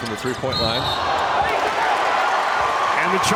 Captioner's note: whistle blows; audience cheers